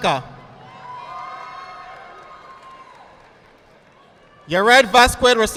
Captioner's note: audience applauding